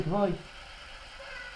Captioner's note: white noise